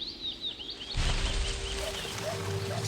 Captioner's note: birds chirping